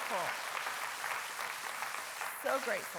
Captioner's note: congregation cheering and applauding